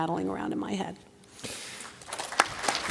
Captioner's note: applause